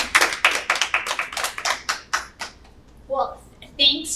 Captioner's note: panelists applauding